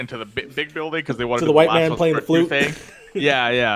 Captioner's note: laughs